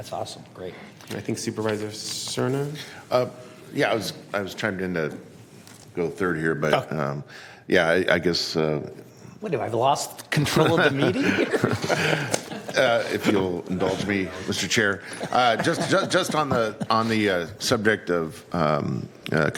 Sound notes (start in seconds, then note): 15.1 laughter